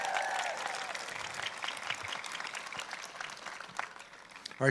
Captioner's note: applause